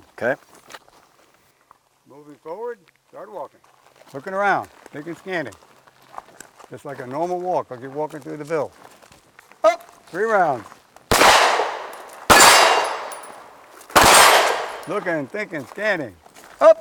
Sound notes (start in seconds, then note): 11.1 gunshots fired